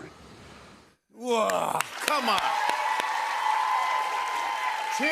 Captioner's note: cheers and applause